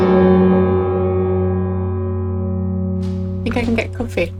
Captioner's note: extremely loud bell noise